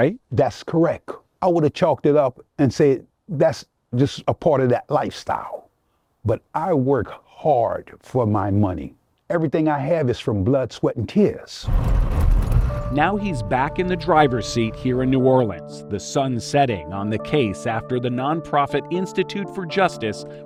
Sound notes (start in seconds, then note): 11.5 motor humming